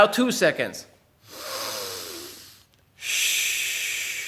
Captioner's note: air hisses